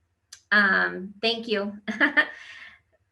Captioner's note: laughs